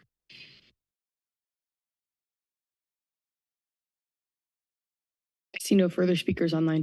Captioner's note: silence